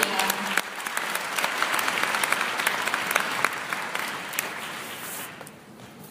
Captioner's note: applause